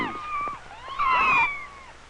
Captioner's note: kittens mewing